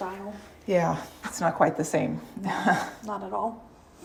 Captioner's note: chuckles